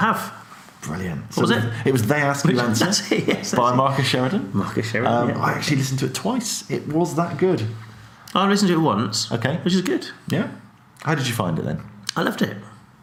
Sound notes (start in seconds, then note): 2.4 laughs